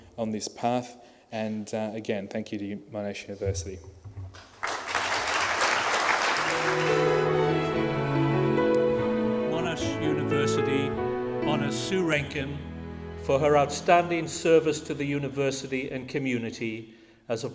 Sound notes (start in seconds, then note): 4.3 audience claps